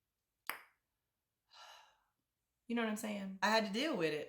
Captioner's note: sigh